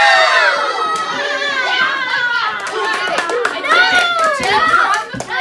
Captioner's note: applause and rejoicing